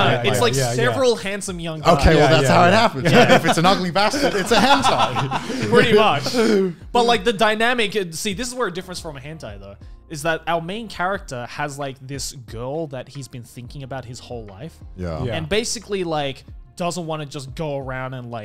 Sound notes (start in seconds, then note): 5.7 laughs